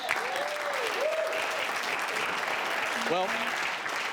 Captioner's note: audience applauding